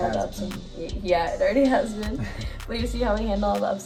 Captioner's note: giggles